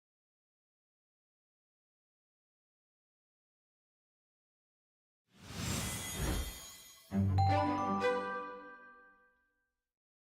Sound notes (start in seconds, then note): 5.4 whoosh; 7.3 chiming